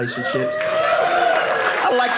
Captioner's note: audience cheering